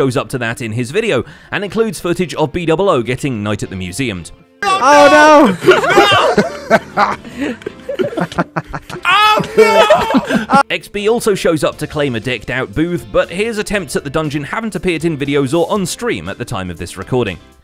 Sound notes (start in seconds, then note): 4.3 everyone laughing